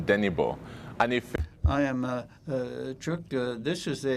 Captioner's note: speaking in French